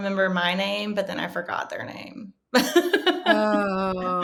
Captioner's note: chuckling